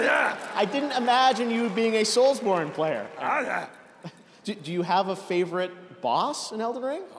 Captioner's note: cheers and applause